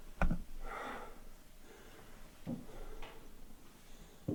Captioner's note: Jacob panting